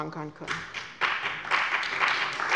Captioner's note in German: Beifall bei dem BÜNDNIS 90/DIE GRÜNEN sowie bei Abgeordneten der CDU und der SPD